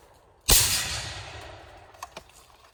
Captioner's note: loud shot